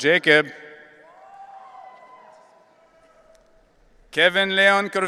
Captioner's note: audience cheering